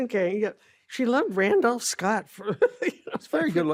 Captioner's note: laughs